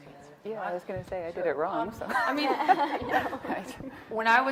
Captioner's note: laughs